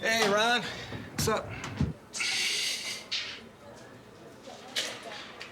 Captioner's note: none